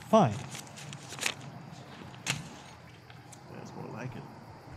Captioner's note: money rustling